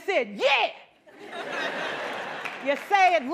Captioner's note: laughter